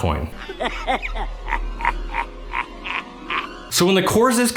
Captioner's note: evil laughing